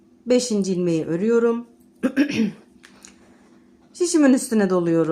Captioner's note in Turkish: boğazını temizler